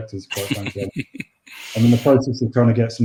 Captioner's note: laughs